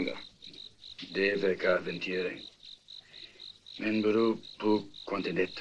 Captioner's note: Spanish spoken audio